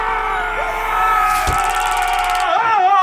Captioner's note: both screaming; electric charge of taser gun over their yelling